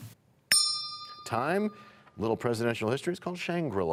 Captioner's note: bell rings, time expires